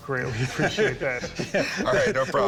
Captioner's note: laughter